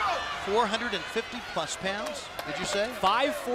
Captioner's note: crowd chatter